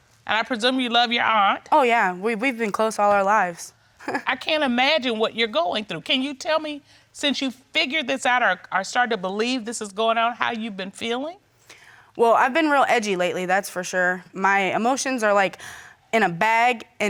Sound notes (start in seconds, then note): 4.0 chuckles